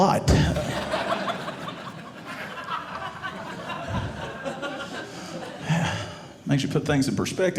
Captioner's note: audience laughing